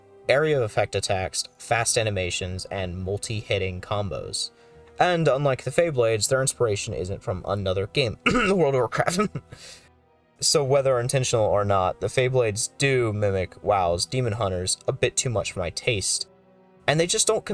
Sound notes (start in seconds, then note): 8.2 cough